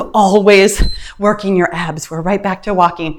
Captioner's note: timer beeps